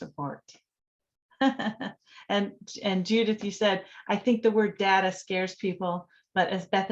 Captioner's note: laughter